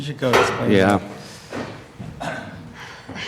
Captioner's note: laughs